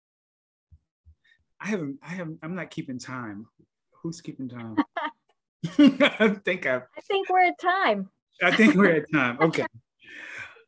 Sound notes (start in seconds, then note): 4.7 laughs softly